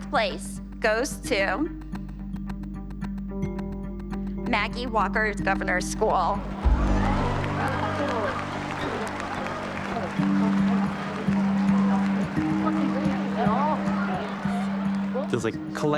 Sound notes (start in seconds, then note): 7.0 gasps; 8.6 applause